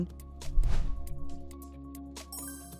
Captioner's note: light upbeat music; logo swooshes; stars chimes